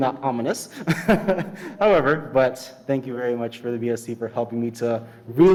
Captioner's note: laughs